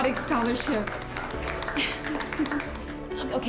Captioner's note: cheering, giggles